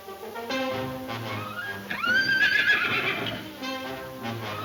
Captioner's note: exciting orchestra music; horse whinnying